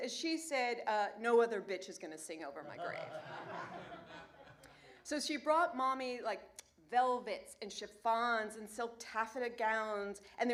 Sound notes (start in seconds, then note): 2.6 laughter